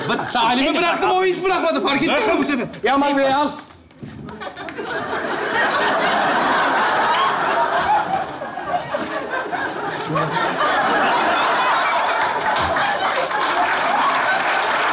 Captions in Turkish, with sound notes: -Ben bıraktım o hiç bırakmadı. Fark ettin mi? Aman be al. (Kahkaha sesleri) (Kahkaha ve alkış sesleri)